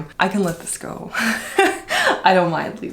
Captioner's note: laughs